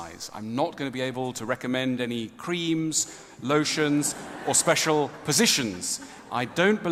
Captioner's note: ضحك